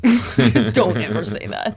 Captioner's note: laughs